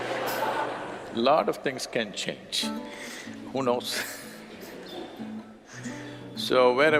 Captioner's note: laughs